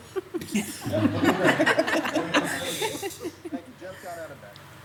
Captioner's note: participants laughs